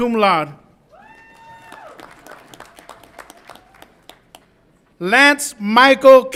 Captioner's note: audience applauds and cheers